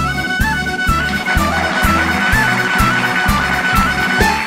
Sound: applause, music continues

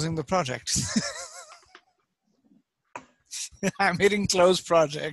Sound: laughing

